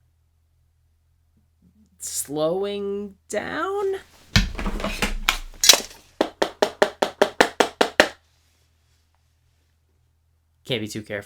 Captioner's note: frantically knocks on wood